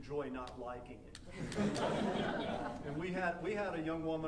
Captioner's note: audience laughing